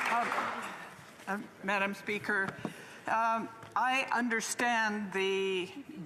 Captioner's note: some Applause